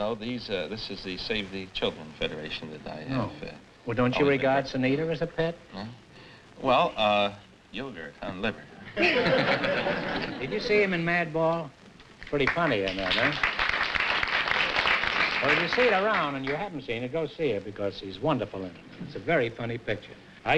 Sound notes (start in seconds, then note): 8.9 laughter; 12.2 applause